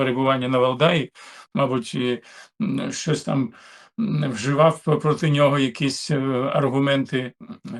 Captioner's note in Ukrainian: прочищення горла